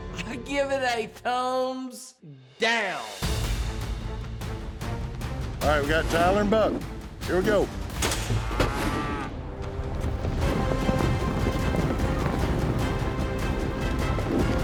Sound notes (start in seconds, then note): 8.0 chute opens